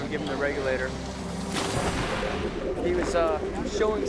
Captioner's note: water splashes